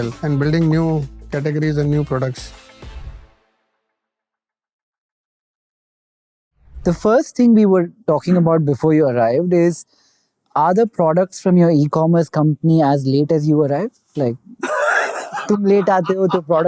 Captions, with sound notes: and building new categories and new products. The first thing we were talking about before you arrived is, "Are the products from your e-commerce company as late as you arrived?" -Like… -[laughter]